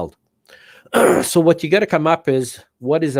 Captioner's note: clearing throat